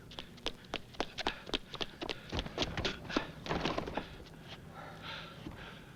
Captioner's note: panting